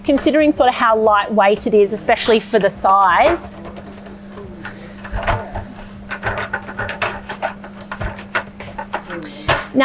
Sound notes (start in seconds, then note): 5.1 table shaking